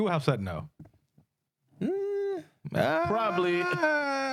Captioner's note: speaking In Foreign Language